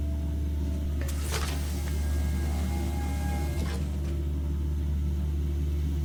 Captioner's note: door whooshes